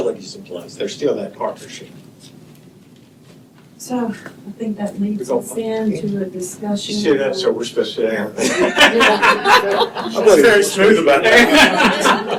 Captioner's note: laughter